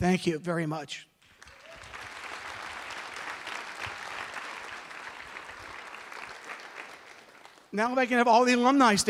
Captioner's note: applause